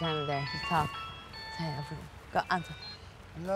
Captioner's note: phone ringing